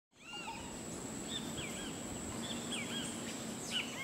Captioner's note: tropical Bird Sounds